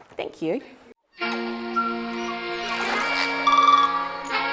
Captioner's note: birdsong, water laps